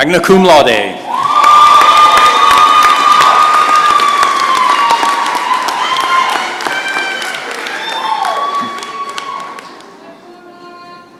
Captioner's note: cheers and applause